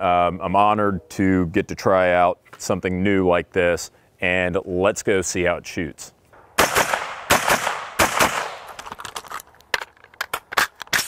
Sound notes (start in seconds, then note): 6.4 gun firing